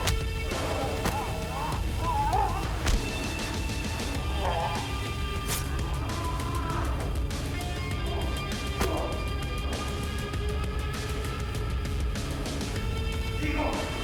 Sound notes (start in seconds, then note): 0.9 blows thudding; 0.9 creature grunting; 8.7 Igor thudding to floor; 11.4 mellow upbeat music